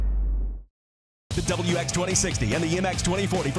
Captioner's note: voiceover